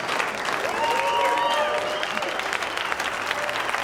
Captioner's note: cheering and applause